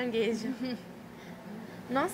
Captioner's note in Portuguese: risos